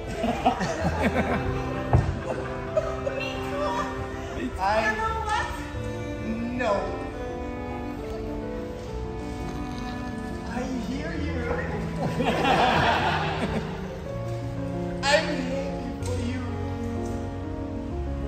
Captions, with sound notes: [Laughter] Me too... You know what? No. [Sad music] I hear you. [Laughing] I'm happy for you.